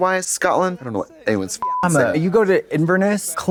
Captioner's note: beep